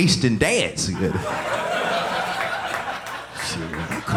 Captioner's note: audience laughing